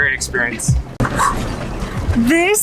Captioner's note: blows mouth